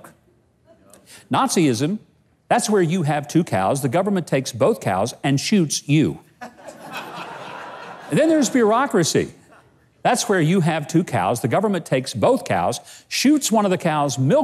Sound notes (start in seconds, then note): 6.4 audience laughing